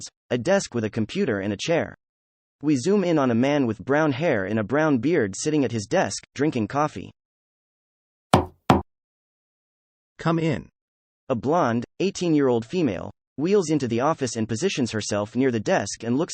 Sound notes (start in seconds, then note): 8.3 sound effect: Knock, Knock